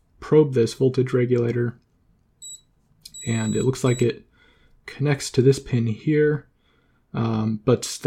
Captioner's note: beep beep